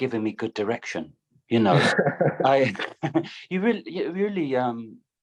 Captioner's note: laughter